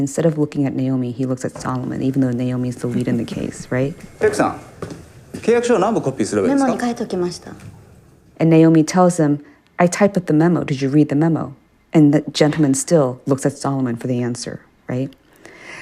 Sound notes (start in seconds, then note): 3.8 soundbite of tv show, "pachinko"; 7.0 As Naomi, non-English language spoken